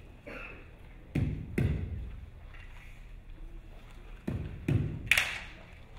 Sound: feet stomping; rhythmic music

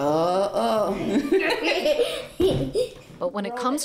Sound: laughing

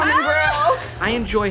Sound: laughing

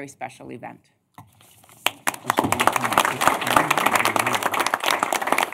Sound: applause

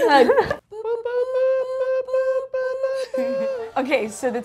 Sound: both imitating beeping

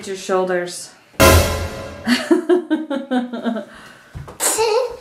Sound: laughing

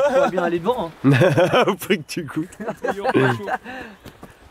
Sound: laughter

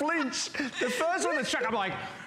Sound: laughter

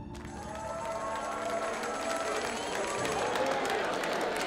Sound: cheers and applause

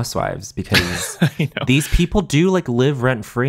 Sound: chuckling

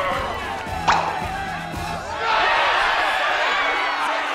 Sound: cheering

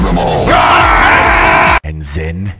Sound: loud battles cry

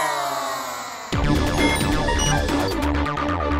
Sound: sound effect playing

